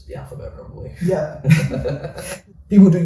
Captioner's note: laughs